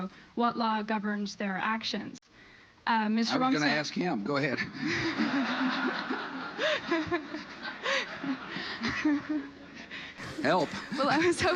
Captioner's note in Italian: risata